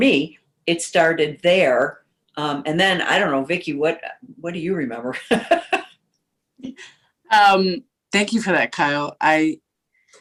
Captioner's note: laughter